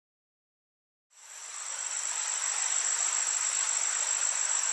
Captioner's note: outdoor ambience